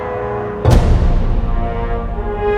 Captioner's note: thump